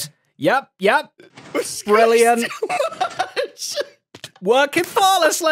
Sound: laughs

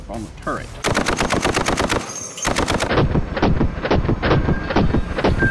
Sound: multiple gun shots

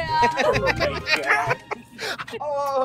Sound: laughing

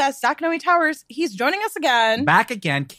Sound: laughs

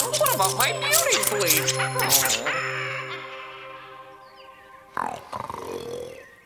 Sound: witch cackles

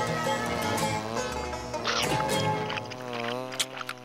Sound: buzzing

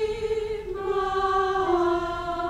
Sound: none

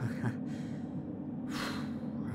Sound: chuckle; exhale

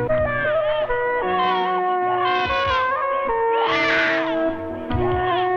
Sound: baby crying

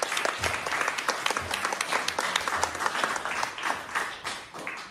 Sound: applause

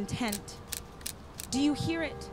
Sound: typewriter keys clicking

